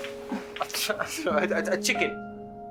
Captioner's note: stutters